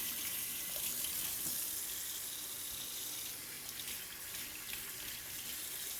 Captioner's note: water running